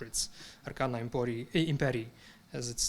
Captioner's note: speaking in foreign language